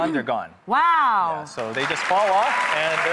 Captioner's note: audience applauding